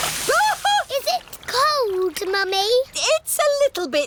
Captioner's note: shrieks